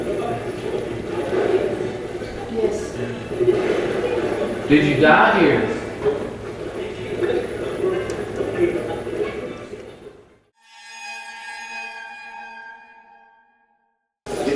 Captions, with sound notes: - Yes. - Yes. - Did you die here? (radio channel changing) (spooky sound effect)